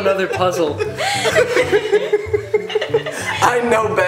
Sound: laughter

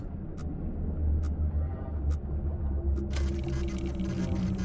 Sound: machine whirring

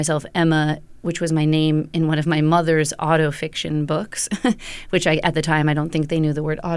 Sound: laughter

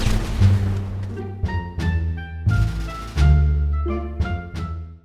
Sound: explosion

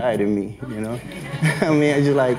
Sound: everyone laughs

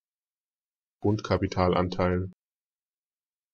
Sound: fast Pronunciation

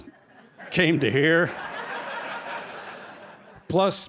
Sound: laughter

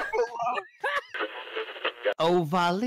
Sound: radio tuning noises

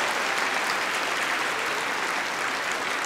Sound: applause

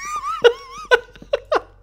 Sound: laughing

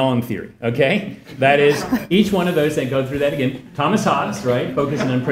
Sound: laugh

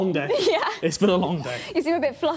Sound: chuckling

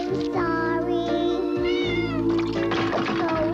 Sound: meow

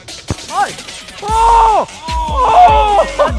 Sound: laughter

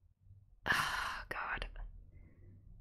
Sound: whispers

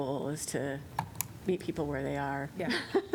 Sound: laughter

